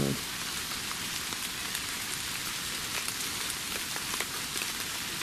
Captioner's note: rain pattering